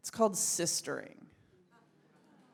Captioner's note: audience laughs